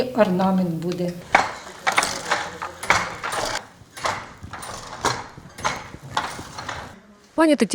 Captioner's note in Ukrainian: звук станка